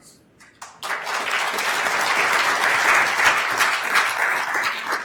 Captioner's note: attendees applauding